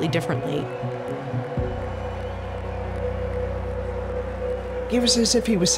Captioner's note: crowd cheering